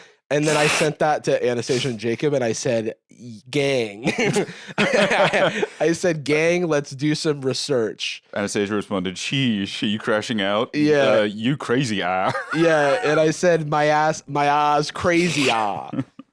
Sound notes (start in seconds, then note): 4.1 laughs